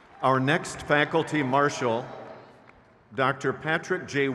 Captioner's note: crowd cheers